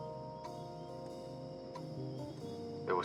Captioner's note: rhythmic ticking